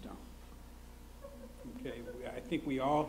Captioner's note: laughs